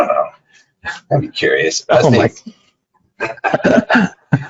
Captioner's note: laughs